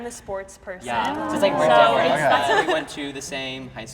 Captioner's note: crowd approves